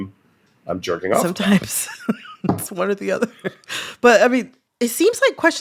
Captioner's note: laughter